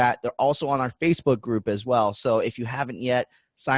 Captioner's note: none